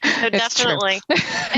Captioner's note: chuckles; laughs